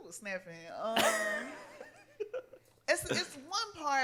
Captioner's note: laughs